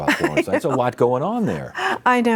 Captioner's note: laughs